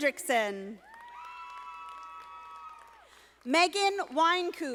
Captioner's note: audience applauding